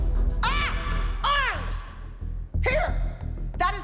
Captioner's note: yelling